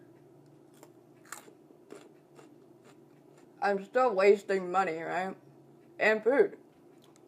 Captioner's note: chewing